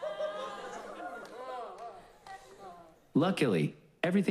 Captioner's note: scattered laughs